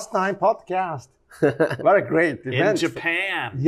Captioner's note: light chuckling